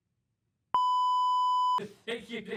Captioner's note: beeep